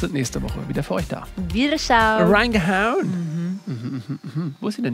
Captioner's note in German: verstellt